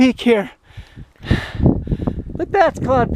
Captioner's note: heavy breathing